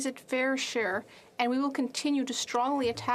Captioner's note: speaking French